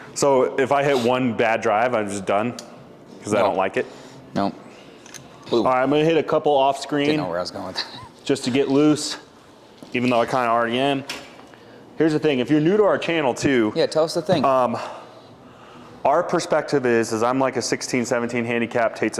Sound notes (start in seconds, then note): 7.7 chuckles